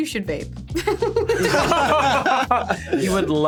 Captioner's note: all laughing